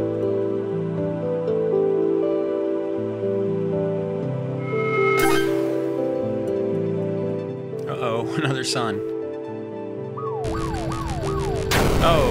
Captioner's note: sirens